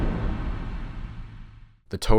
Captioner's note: thud